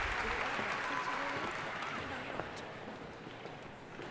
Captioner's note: soft chattering